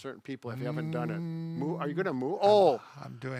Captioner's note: imitates a yoga moan